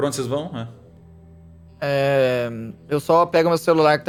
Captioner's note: none